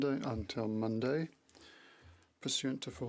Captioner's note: speaking French